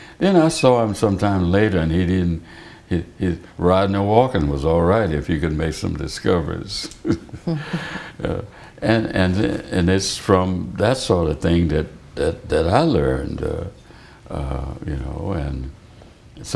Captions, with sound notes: Then, I saw him sometime later and he didn't--riding or walking was alright if you could make some discoveries! (Laughter) And it's from that sort of thing that I learned, you know, and so